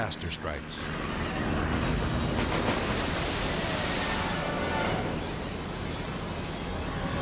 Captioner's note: helicopter whirring; water splashes